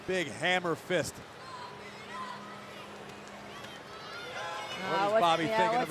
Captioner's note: crowd cheering